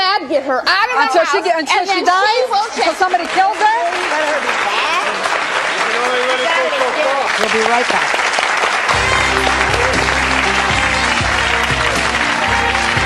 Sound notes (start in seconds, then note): 4.0 audience applauding; 10.4 upbeat music